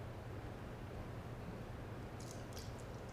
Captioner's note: none